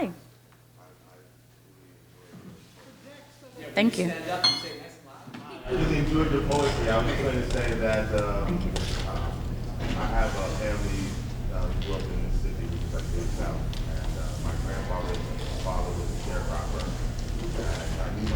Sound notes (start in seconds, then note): 5.7 laughing